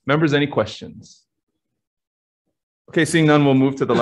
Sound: silence

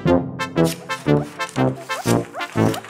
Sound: paper tearing

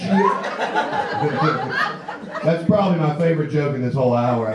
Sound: laughs; audience laughs

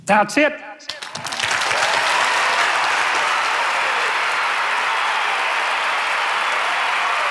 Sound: applauding

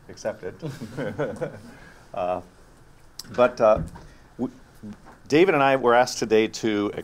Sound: laugh

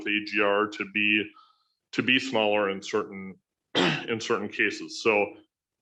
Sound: clears throat

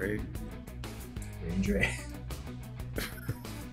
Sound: laugh

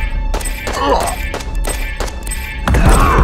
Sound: shooting sounds

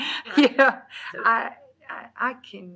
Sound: laughs

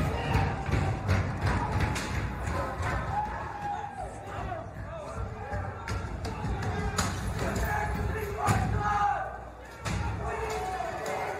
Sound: yelling

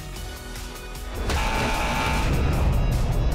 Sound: buzzer sounding

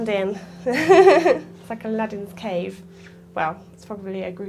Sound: laughter

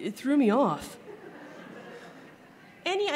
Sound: laughter

